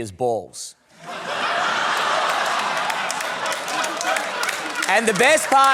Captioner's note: laughter, applause